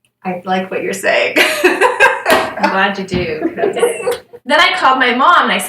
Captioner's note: laughter